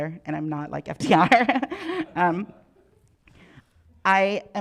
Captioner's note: chuckles